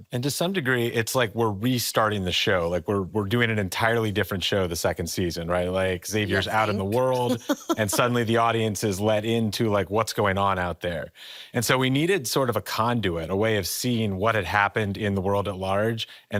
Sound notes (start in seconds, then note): 6.3 laughs